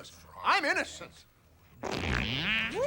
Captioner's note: loud farting